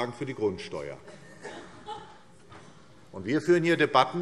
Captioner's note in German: Heiterkeit SPD